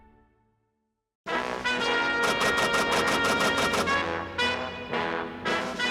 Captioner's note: dramatic music; typewriter clicking